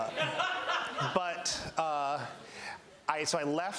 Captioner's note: laughter